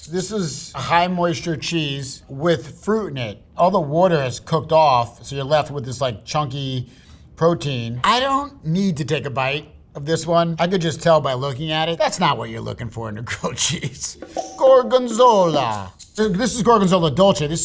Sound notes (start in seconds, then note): 13.8 chuckling; 14.1 upbeat music